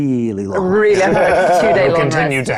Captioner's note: participant chuckling